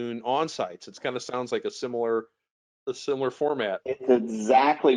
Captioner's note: laughs